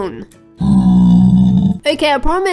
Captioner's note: grunting